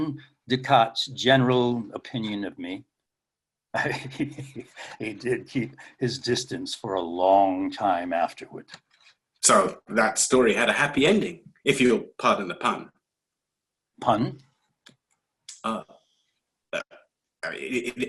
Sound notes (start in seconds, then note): 3.8 laughs